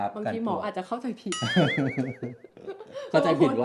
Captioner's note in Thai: เสียงหัวเราะ